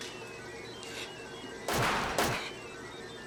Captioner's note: gun fires